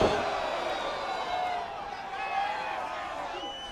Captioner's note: troops cheer